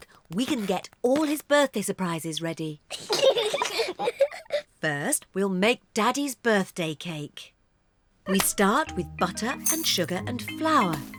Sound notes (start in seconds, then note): 2.9 both giggle